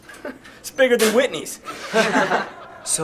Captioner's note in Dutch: lacht